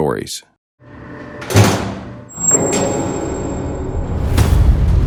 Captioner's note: jail cell door slams shut; dramatic music